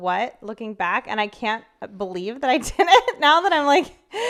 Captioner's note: laughs